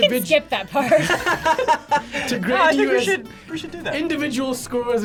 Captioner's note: laughs